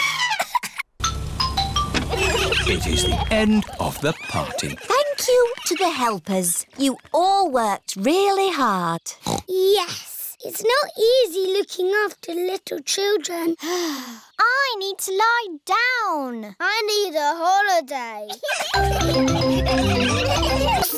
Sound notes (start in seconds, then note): 0.1 trumpets; 1.0 horns honking; 13.9 sighs; 18.4 all laughing